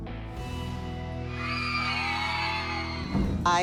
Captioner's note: cheering